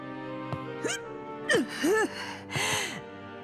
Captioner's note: hic